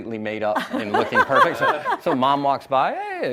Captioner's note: laughs